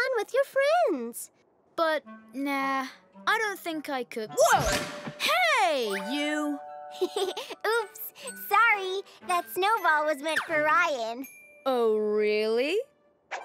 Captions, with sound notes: with your friends. - But nah, I don't think I could. Whoa! Hey you. (Zoe chuckles) - Oops. Sorry that snowball was meant for Ryan. - Oh really?